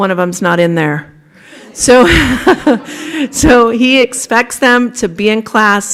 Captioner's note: laughter